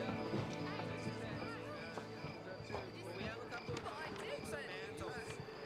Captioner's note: people chattering